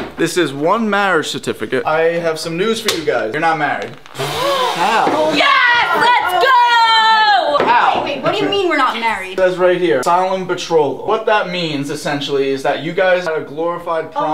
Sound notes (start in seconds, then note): 4.3 gasps